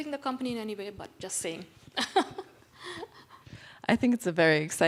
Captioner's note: laughs